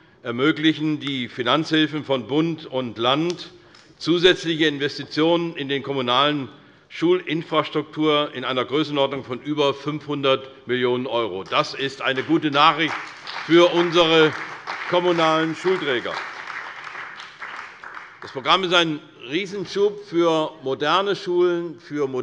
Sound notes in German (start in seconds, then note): 16.3 Beifall bei der CDU und dem BÜNDNIS 90/DIE GRÜNEN